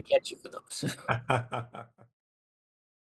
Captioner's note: laugh